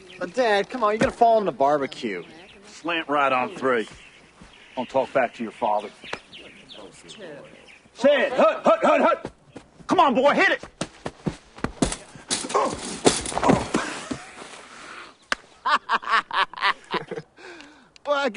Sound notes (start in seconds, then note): 6.2 indistinct crowd murmurs; 15.6 Joe laughs; 15.7 Lance chuckles